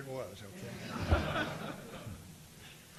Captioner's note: audience laughing